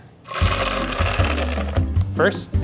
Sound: almonds rattling

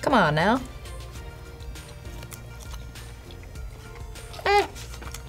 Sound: eating noises

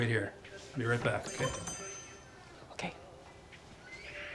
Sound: bell ringing

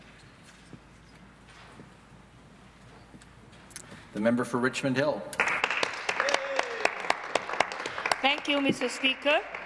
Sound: applause

